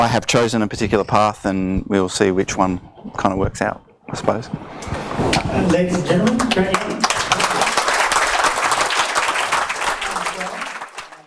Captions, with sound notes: I have chosen a particular path and we'll see which one kind of works out, I suppose. - [Voiceover] Ladies and gentlemen, Grant Young. (audience applauds)